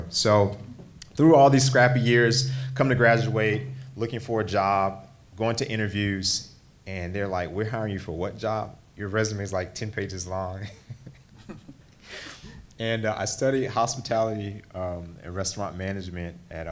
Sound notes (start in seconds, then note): 12.1 laughs